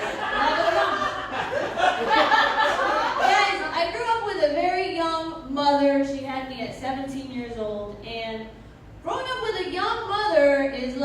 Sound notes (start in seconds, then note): 2.1 laughter